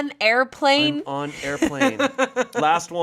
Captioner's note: laughing